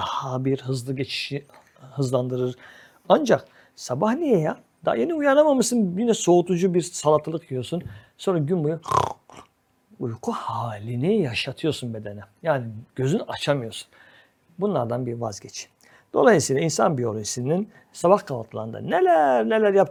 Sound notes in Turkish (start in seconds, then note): 8.8 homurdanır